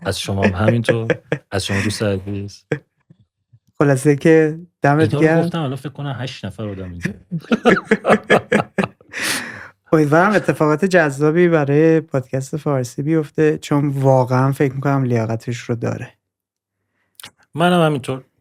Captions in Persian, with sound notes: از شما هم همین‌طور. از شما دوست عزیز! - خلاصه که دمت گرم - این‌ها رو گفتم الان فکر کنن هشت نفر آدم اینجان! (خنده) - (خنده) امیدوارم اتفاقات جذابی برای پادکست فارسی بیفته چون واقعاً فکر می‌کنم لیاقتش رو داره - منم همین‌طور